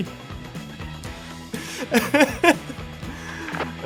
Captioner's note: laughs